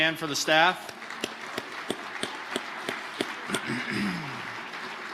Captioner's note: audience applauding